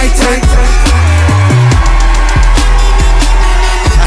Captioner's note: crowd cheers